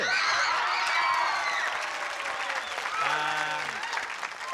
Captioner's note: cheering